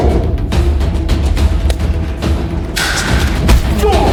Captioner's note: intense music; gun clicks; gun clatters; fist thuds; Chris groans